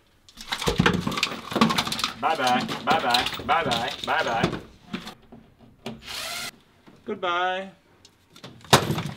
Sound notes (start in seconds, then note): 0.4 rattling; 6.0 battery-powered drill; 8.7 clatters